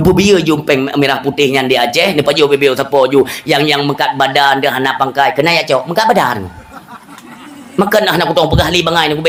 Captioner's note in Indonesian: tertawa